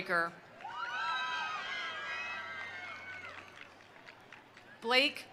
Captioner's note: attendees cheering; attendees applauding